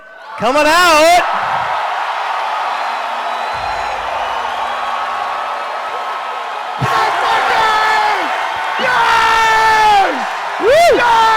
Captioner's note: cheering and chanting "Grog"